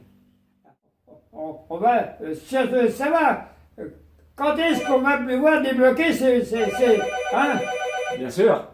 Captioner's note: phone rings and flashes